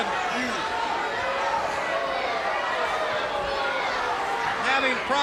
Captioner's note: crowd cheering